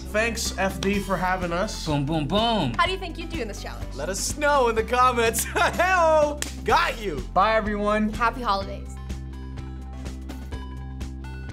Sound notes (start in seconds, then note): 5.9 laughs; 9.0 upbeat outro